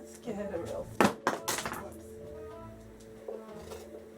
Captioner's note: drops utensil; scraping